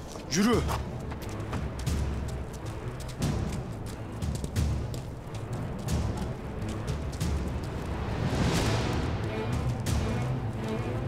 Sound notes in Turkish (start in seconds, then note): 1.6 Ayak sesleri; 1.6 Müzik - Gerilim